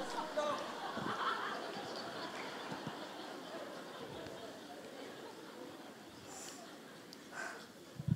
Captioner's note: audience laughs